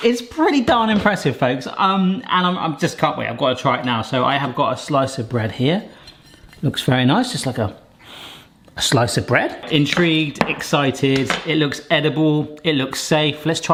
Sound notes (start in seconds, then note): 8.0 inhales